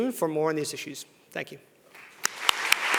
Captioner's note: applause